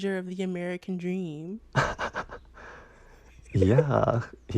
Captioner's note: laughter